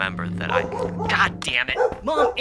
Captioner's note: knocking